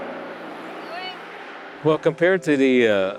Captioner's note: sound of cars rushing; riders chatting